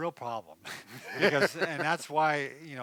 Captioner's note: laughing